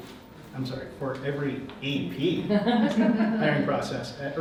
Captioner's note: audience chuckles